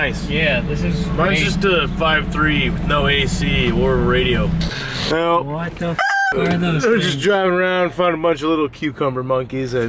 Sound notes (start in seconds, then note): 4.6 static sound; 5.9 rooster sound